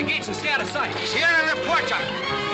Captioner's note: in spanish